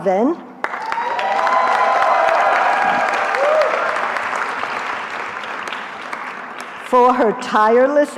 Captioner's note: cheering